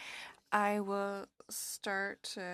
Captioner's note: speaking French